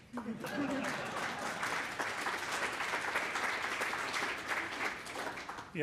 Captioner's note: applause